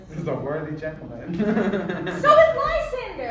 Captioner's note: Theseus chuckles